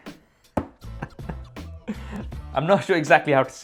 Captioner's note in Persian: می خندد